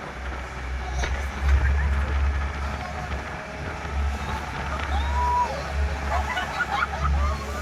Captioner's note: screaming in the distance